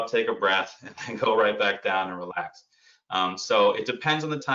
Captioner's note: laughs